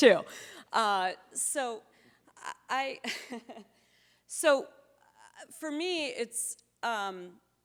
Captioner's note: chuckles